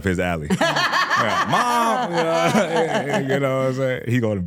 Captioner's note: laughs